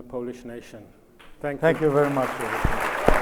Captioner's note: audience applauds